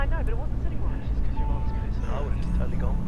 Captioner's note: woman On Radio